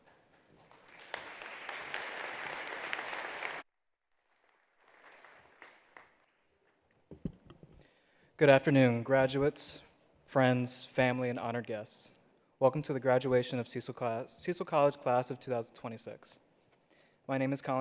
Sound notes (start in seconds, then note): 0.4 attendees applauding